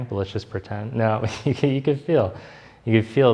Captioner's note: laughs